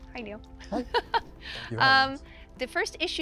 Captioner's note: chuckles